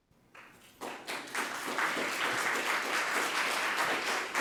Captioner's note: audience applause